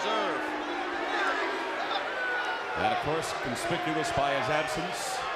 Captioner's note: crowd chatter